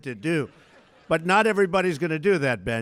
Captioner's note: laughter